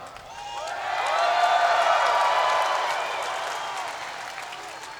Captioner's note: crowd cheers